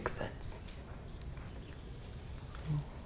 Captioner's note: whispers